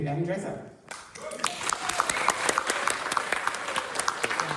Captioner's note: applause